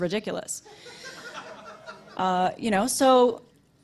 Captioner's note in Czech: publikum se směje